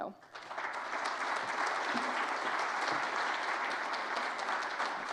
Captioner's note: audience applauding